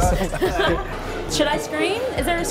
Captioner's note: laughing